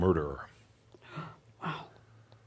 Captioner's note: gasps